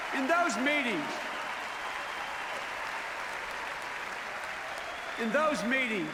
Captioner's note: applause